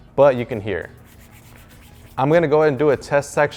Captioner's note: rubbing noise